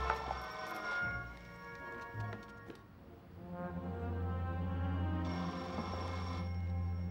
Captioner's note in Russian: Продолжает звонить телефон